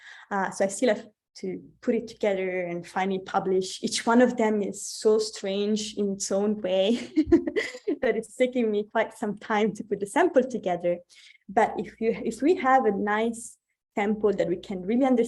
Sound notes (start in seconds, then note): 7.0 chuckles